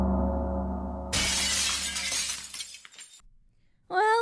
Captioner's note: glass Shattering